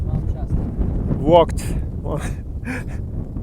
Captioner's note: laughs